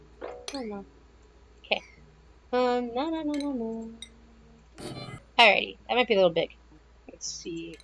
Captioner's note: more humming; humming